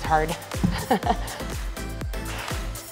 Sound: laughs; energetic music

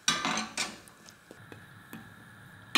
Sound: pan thuds; spoon thuds

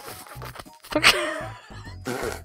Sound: laughs

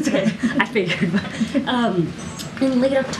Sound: laughter

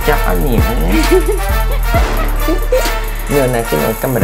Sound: laughing

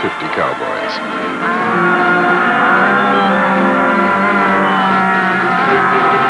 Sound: cows mooing

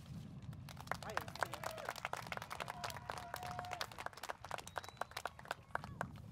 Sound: applause

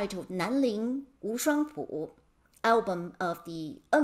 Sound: speaking in Mandarin

